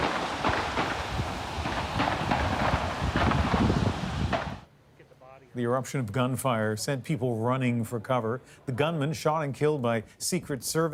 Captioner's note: shots